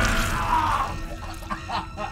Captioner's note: ax thuds; flesh squelching and tearing; screaming; obscure music; sobbing